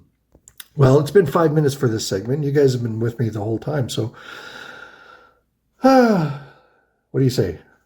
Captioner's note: sighs